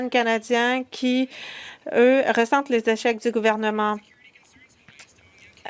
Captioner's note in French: voix de l'interprète